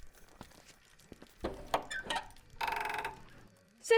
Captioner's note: door creaks open